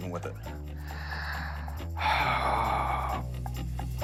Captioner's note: sighs